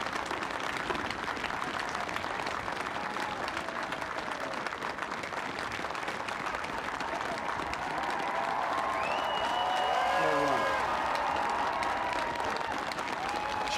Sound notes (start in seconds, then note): 3.1 applause; 3.1 cheering